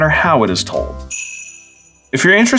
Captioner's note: sleigh bells